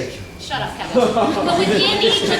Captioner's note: audience laughs